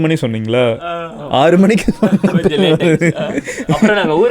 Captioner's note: laughs